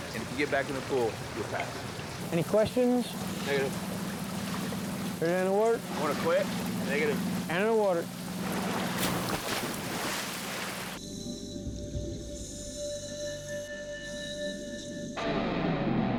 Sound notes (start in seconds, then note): 9.0 water splashes